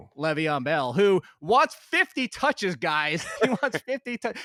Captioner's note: laughs